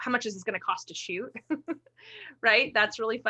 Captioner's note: chuckles